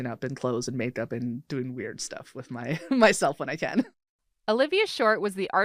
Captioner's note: laughs